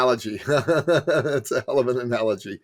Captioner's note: laughing